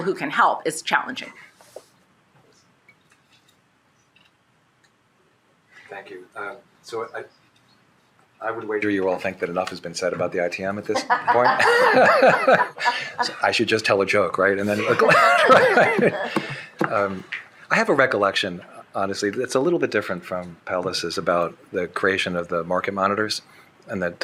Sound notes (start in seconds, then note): 10.9 shared laughing; 14.7 shared laughing